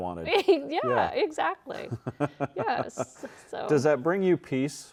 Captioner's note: chuckles